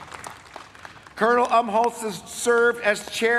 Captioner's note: applause